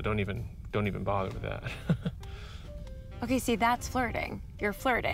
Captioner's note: chuckles nervously